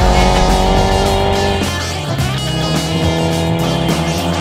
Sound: upbeat funky music; engine revving; upbeat funky music

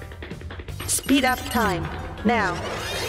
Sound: robot voice

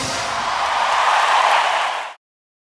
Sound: audience cheering

